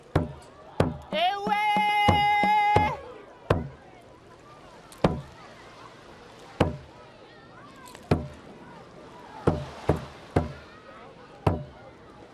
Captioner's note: water lapping on shore; beating drum; chanting in hawaiian